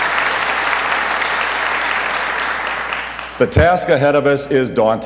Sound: applause

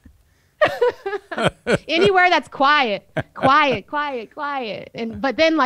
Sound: laughs; both laugh

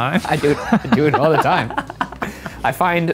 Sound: all laugh

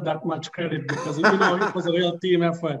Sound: laughing

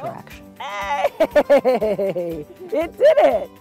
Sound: laughing

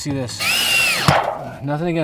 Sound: drill hums

